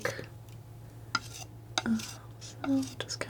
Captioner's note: tapping